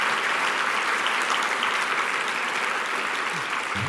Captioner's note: applause